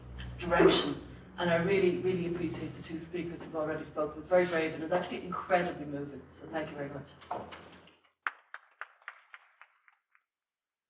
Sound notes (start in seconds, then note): 8.2 applause